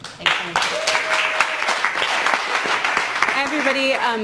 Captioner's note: applause